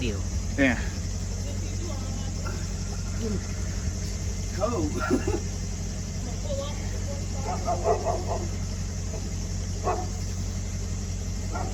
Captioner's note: indistinct chatter and dogs barking